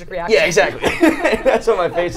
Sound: both laugh

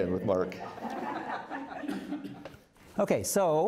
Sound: crowd laughing

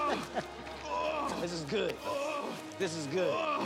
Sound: groaning continues

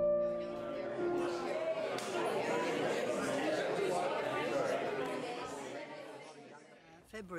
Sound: group talking

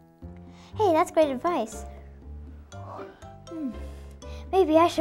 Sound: yawn

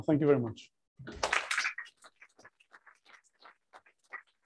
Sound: applause

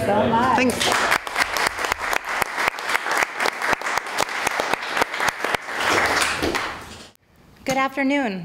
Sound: applause

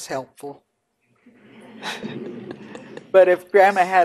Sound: laughing

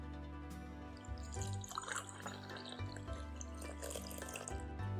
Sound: calm music; cup filling

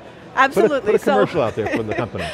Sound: laughs

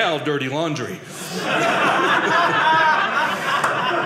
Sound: audience laughing

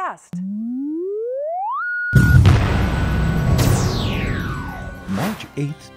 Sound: sound Effects

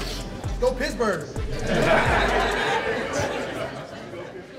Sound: everyone laughing

